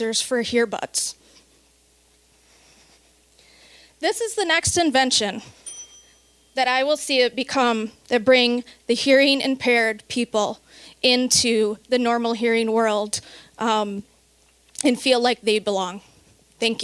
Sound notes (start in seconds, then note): 5.6 bell dinging